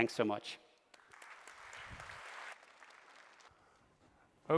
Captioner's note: applause